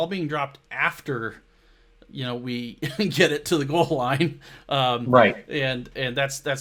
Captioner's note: laughs